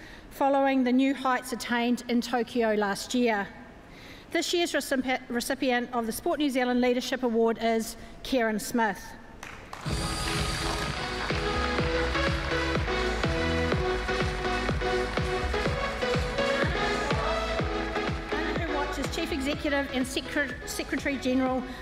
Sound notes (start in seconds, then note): 9.4 applause; 9.8 upbeat electronic music plays